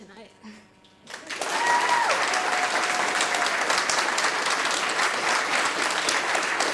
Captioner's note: audience applauding; cheering